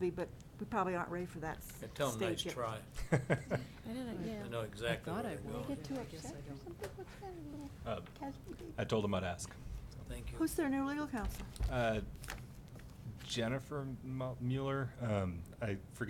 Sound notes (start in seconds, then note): 2.9 laughing